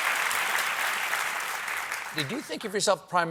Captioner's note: cheers and applause